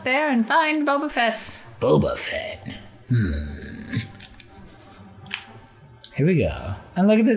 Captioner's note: Solid Snake voice